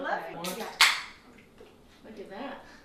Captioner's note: beer can opens